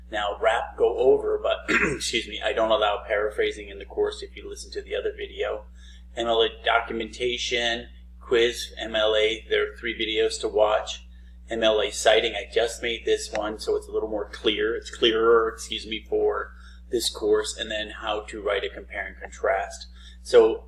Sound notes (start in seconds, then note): 1.6 clearing throat